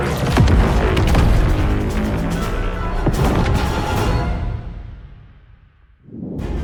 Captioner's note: door opens